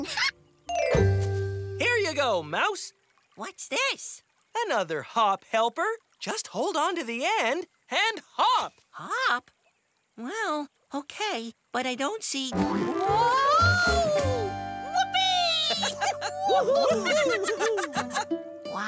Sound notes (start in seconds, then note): 14.9 laugh and cheer